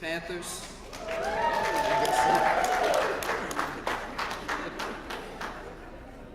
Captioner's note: applause